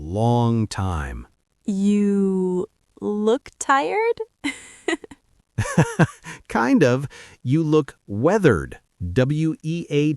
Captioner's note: laughs